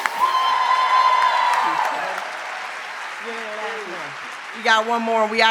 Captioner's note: audience continues cheering